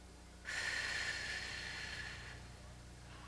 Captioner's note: breathing